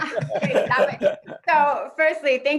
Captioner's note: laughing